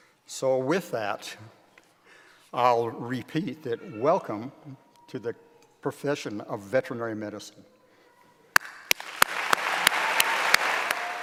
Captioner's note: applause